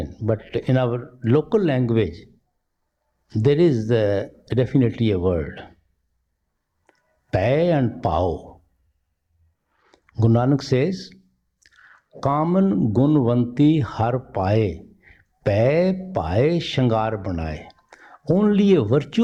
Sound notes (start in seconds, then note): 8.5 these two words spoken by in Punjabi; 16.8 quotation in Punjabi